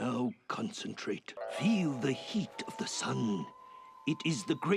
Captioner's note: none